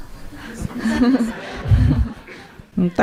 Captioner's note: audience/Questioner laughter